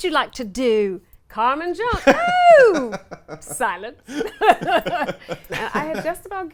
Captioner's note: laughs